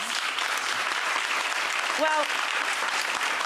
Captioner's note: audience applauding